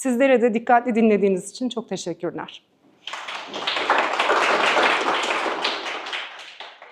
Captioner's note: claps